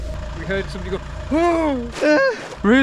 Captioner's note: groaning